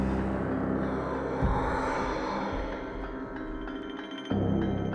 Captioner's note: moaning